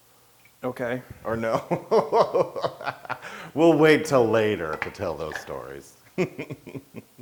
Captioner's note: laugh